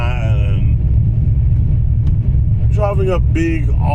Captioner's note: engine revving